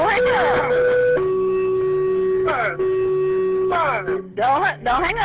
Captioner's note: alert blaring